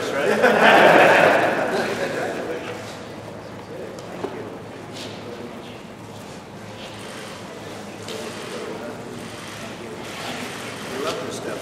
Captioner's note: laughter